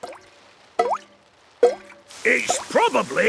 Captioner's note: water dripping